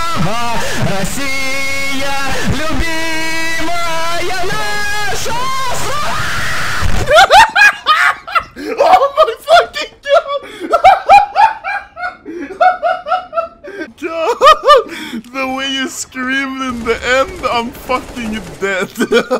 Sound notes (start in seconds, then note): 7.2 laughs